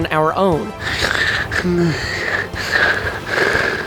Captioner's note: heavy breathing